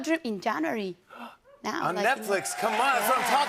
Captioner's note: gasps